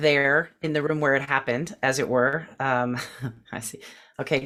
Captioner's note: chuckles